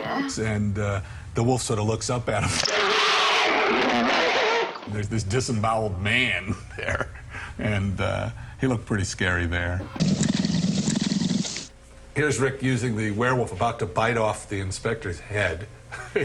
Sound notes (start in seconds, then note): 2.5 screaming; 2.5 roaring; 9.9 growling